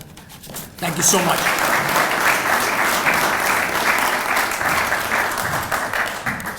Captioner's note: applauding